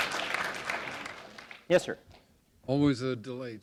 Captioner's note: applause